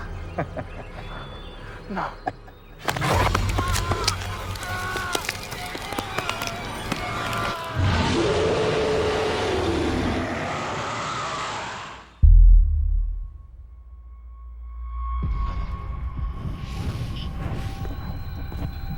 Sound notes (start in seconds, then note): 0.0 intense music continues; 0.2 vampire laughing; 3.3 scary music; 3.3 soldier screaming; 7.2 vampire roaring; 12.6 eerie music begins